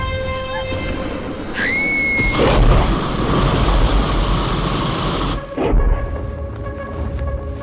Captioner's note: Guine screams; dragon roars